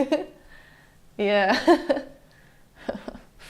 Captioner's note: giggles